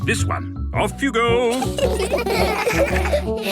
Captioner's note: laughter